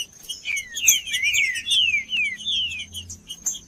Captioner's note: trinca ferro cantando